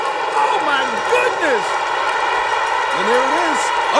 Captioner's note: bell rings